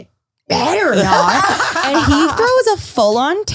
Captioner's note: all laugh